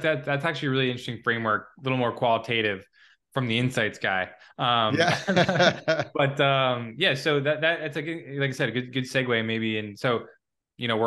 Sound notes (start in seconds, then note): 4.9 laughes